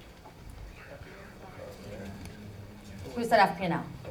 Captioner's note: audience murmuring